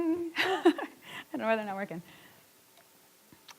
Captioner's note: laughs